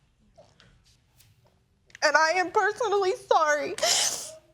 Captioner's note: sobbing